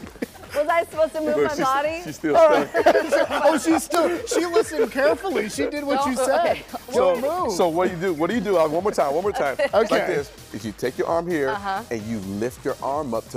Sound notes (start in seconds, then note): 7.3 laughter